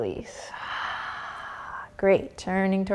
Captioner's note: exhaling breath